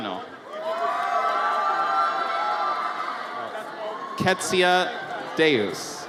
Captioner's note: audience cheers